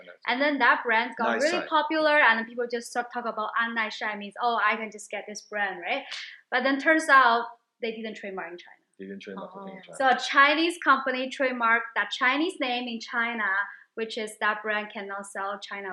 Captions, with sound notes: and then that brand's got really popular, and people just start talk about (speaks Chinese) which means, oh, I can just get this brand right? But then turns out, they didn't trademark in China. So a Chinese company trademarked that Chinese name in China, which is that brand cannot sell in China